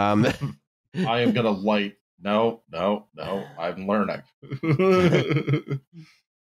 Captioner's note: laughs